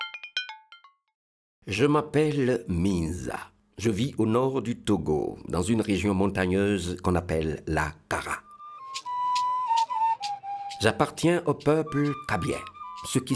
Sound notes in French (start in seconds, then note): 0.8 Voix Off